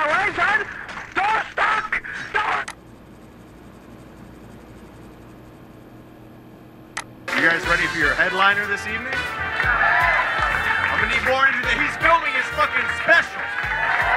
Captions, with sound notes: Out of my way, son. Door's stuck! Door..." (mouse clicks) - You guys ready for your headliner this evening? (audience cheers) I'm gonna need more than that. He's filming his fucking special!